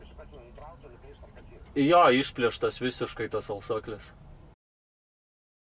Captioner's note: on phone